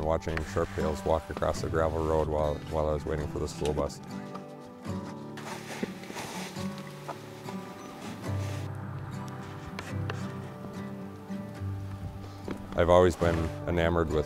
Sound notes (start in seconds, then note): 5.5 wind blowing